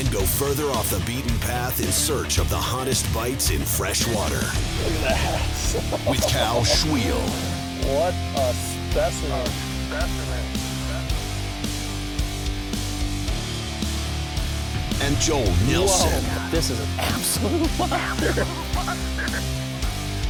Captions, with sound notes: and go further off the beaten path in search of the hottest bites in fresh water. - [Voiceover] Look at that. (laughs) - [Voiceover] With Cal Svihel. - [Voiceover] What a specimen. (rock music) - [Voiceover] And Joel Nelson. - [Voiceover] Whoa, this is an absolute monster.